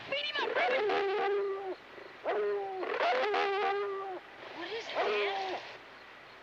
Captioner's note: dog barking